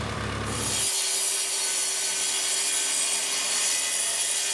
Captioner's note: electric saw whirring